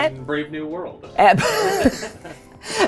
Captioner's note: laugh